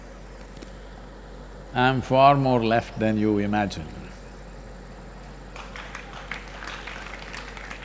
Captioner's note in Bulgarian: Аплодисменти